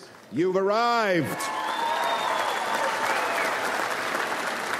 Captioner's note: audience applauds